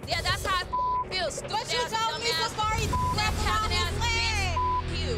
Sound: beep; beep

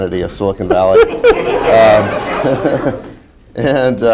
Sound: laughter

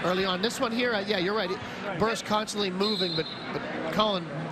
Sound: whistle

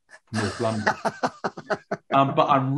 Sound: laughing

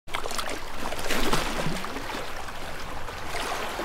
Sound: wavy flowing water

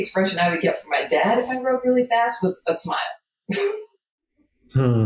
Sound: laughs

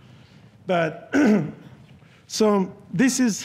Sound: clears throat

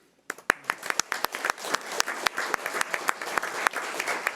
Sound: audience applauding

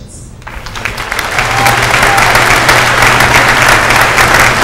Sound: applause

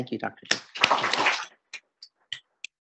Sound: audience applauds

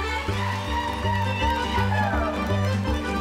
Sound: performers cheering; performers playing upbeat folk music

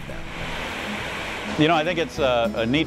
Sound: water rushing

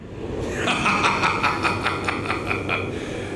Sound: Dornkirk laughing

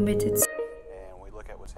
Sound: notification sound

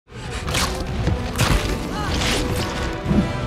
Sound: grunts

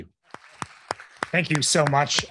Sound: applause

